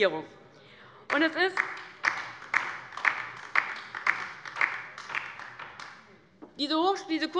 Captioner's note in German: Beifall bei der FDP